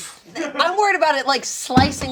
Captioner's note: scoffs